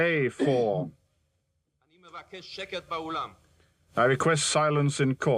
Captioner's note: spectator coughs